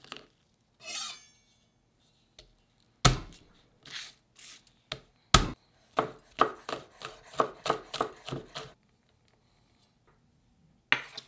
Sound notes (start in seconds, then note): 3.0 knife smash; 5.9 knife chopping